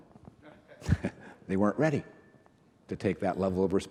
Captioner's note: reverend laughs